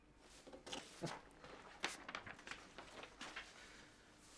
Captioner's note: paper rustling